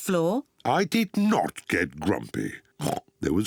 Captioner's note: oinks